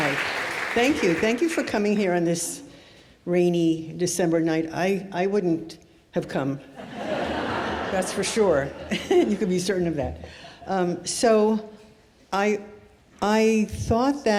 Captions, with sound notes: - Hi. Thank you. Thank you for coming here on this rainy December night. I wouldn't have come. (audience laughs) That's for sure. You could be certain of that. So, I thought